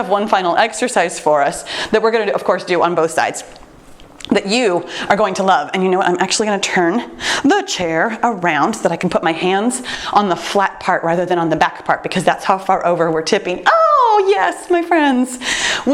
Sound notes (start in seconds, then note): none